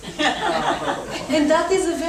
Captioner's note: audience laughs